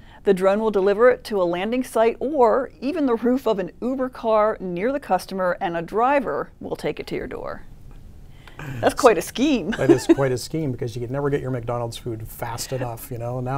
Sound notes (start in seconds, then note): 9.8 laughing